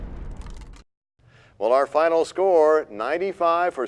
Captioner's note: crashing sound